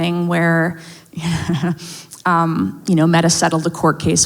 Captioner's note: laughs